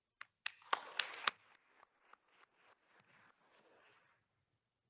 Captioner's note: attendees applauding